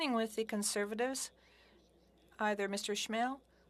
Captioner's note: speaking french